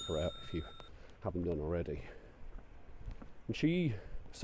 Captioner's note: bell dings